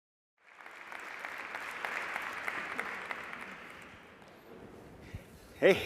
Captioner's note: applause